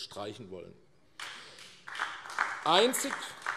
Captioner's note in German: Beifall AfD